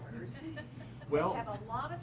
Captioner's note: laughing